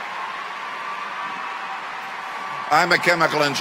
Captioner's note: cheering continues